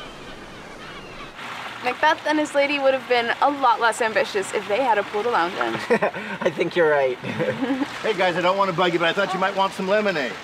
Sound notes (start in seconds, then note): 7.0 laughs